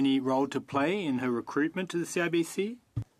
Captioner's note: speaking French